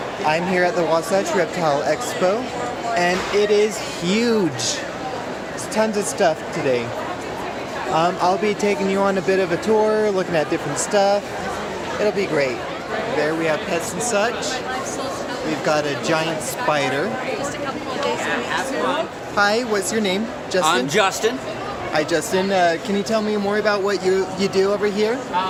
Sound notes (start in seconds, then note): 17.1 murmuring crowd